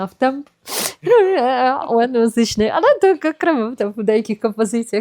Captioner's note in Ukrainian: сопіння